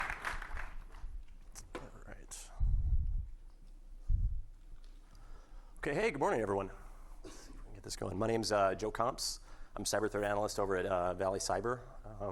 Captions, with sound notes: (audience clapping) - All right. 'Kay, hey, good morning, everyone. We can get this going. My name's Joe Comps. I'm cyberthreat analyst over at Vali Cyber.